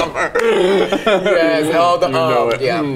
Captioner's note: both laugh